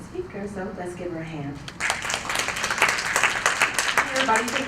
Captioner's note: applause